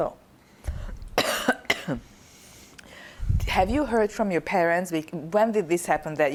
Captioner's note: coughing